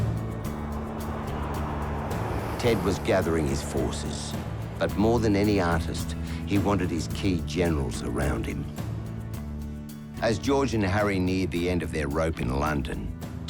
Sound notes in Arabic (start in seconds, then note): 2.5 موسيقى رومانسية; 2.5 هدير الطائرات